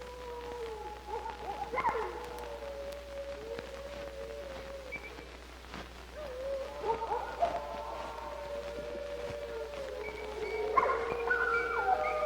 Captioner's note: dogs howling